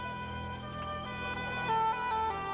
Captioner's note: woman crying